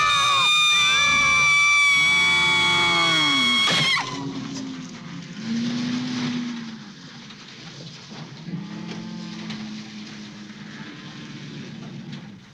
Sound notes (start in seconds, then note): 1.9 cows mooing; 4.8 truck engine rumbling